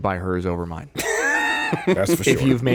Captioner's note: laughing